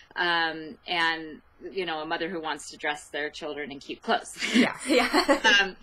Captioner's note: laughs